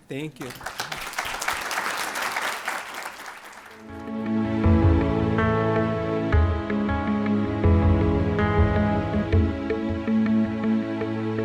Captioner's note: applause